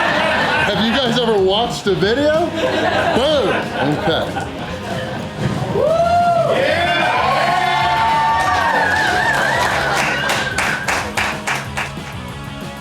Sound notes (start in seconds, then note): 0.0 crowd laughter; 3.0 crowd laughter; 4.6 crowd cheering